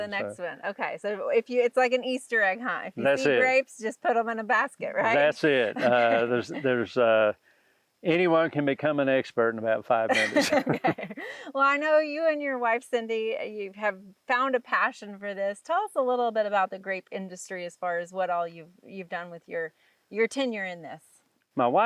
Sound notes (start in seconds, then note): 5.0 laughs; 9.9 both laugh